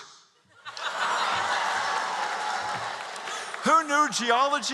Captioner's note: cheers